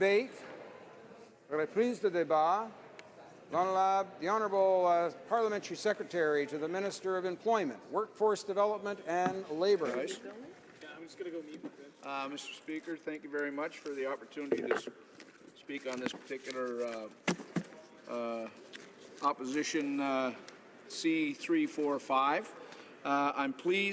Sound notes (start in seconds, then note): 8.9 speaking French